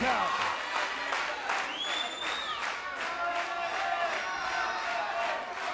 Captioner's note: audience applauds and cheers